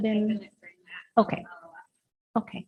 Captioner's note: speaks softly